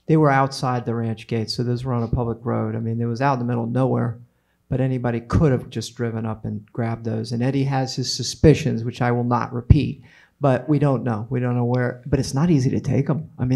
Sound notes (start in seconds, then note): none